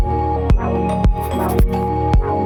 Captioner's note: text scribbles; uplifting music